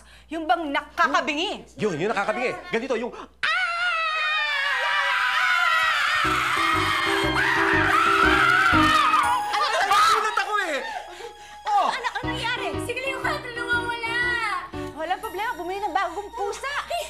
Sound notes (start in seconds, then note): 3.4 all screaming; 6.4 Sita screaming